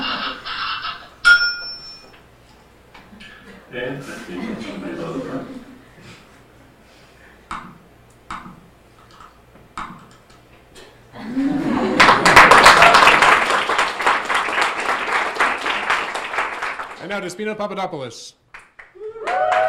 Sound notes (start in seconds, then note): 0.0 audience laughing; 8.0 computer mouse clicking; 11.2 audience laughing and applauding